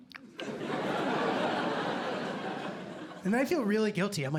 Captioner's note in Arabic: ضحك